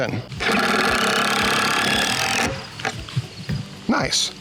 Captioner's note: grinding thunk